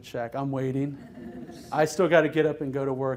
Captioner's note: laughter